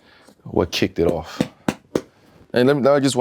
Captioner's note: shoe thudding